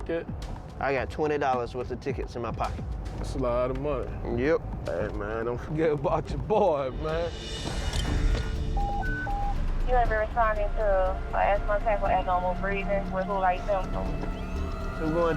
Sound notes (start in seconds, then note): 8.7 alert beeping; 14.4 siren wails